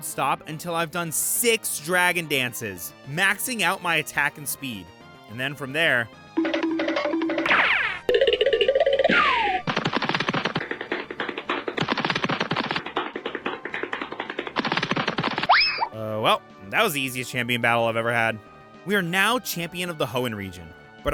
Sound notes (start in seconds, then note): 6.5 silly cartoon noises